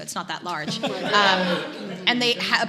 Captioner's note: audience laughs